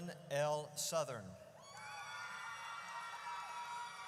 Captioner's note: audience cheers